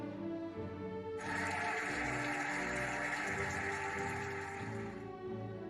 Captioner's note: cheering and applauding